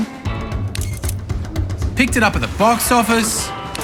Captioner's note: phone beeps